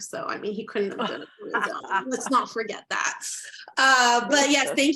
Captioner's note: laughter